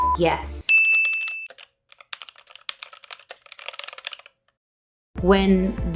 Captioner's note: sharp ding; keyboard typing